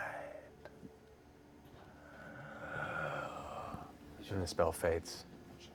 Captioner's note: gasping